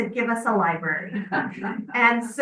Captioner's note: members laughing